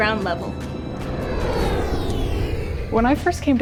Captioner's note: airplane soaring